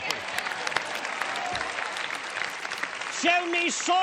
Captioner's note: applause